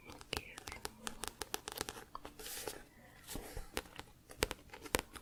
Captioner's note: tapping on book